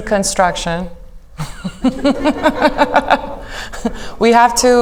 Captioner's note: all laughing